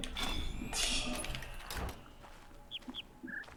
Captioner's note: laughs softly; bird chirps ˥ ˥ ˩ ˧